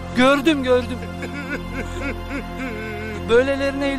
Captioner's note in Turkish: ağlama sesi̇